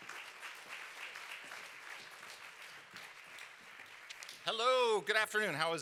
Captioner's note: applause